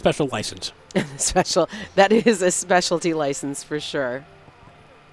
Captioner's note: laughs